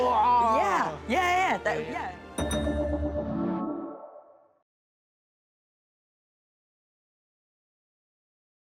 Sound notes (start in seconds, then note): 2.3 gentle outro music; 2.4 bell dings